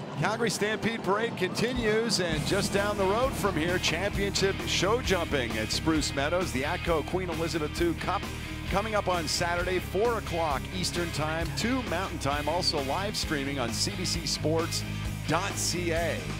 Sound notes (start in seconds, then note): 0.0 cheering and Applause